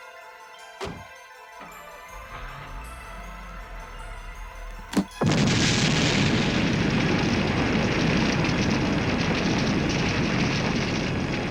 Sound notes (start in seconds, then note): 1.9 car starting; 5.3 booming explosion; 8.7 fire roaring